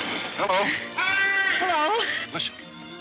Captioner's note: shouting